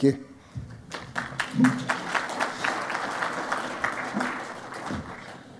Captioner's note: audience claps